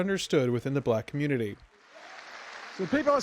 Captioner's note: applause